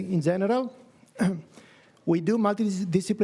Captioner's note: coughs